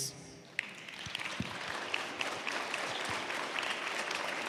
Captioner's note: applause